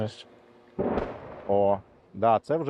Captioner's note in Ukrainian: звук вибуху